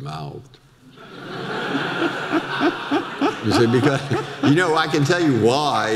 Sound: audience laughter

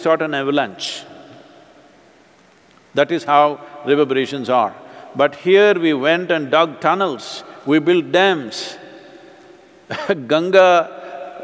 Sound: laughs

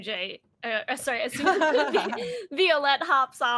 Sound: all laugh

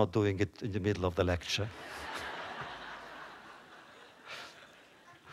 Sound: laughter

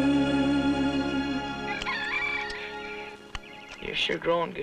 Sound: rooster crows

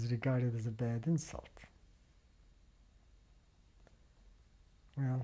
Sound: pauses for 3 seconds

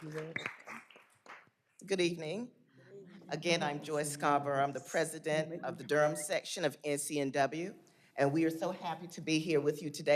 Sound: applause

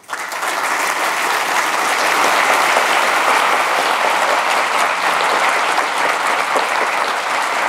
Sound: applause

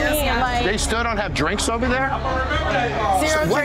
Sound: background talking

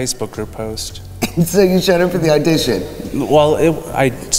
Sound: laughing

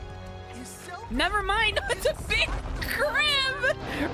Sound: laughing

